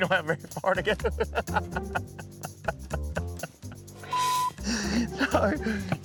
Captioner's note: laughing